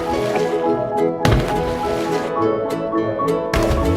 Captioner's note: graphic thuds; boat thuds